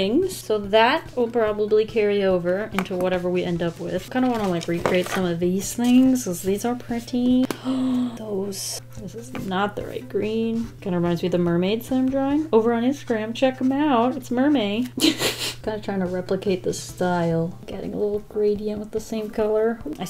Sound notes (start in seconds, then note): 7.5 gasps; 15.0 laughs